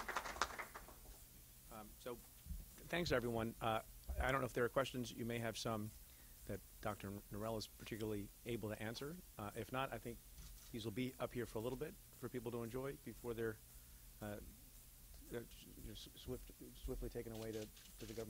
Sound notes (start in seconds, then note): 0.0 clapping; 16.2 stutters